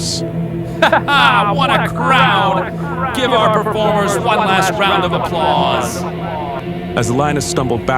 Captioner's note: echo